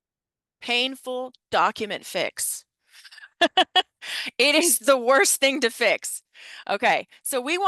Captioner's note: laughing